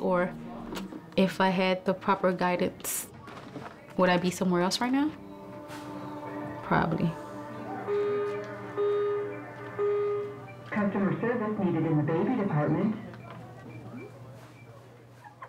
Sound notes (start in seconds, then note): 7.4 loudspeaker beeping; 11.0 lady announcing over loudspeaker